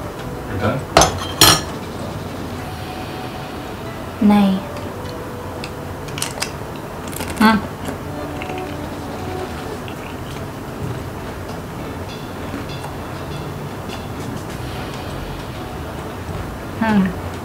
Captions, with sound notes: You done? Nahin. (crunchy eating) Hmmm.